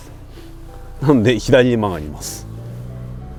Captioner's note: laughs